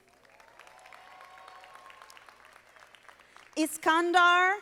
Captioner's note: audience applauding